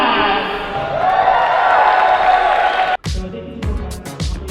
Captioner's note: cheers and applause; funky pop music